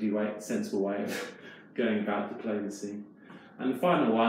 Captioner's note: chuckles